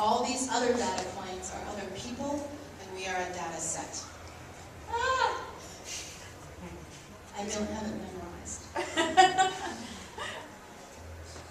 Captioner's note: yells